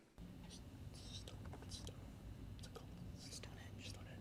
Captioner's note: whispering